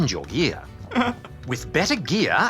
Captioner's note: laughs